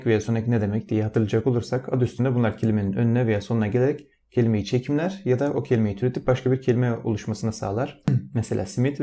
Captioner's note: in Turkish